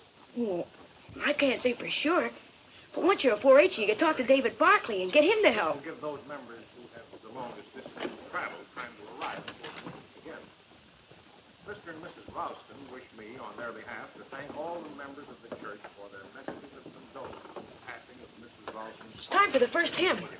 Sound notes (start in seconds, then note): 5.7 person speaking off mic